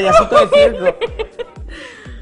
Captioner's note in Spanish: risas